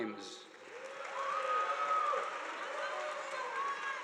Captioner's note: audience applauding